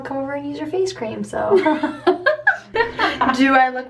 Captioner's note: laughing